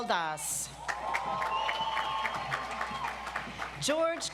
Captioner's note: audience applauds